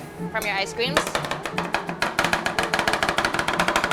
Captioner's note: tapping